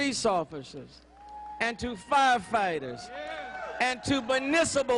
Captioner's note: applause